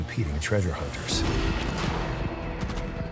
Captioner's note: gunfire blasting